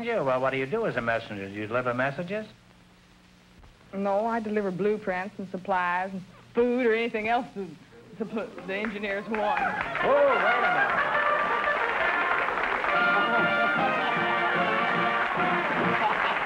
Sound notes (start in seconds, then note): 8.6 applause; 9.9 derby bugle call; 12.3 music & applause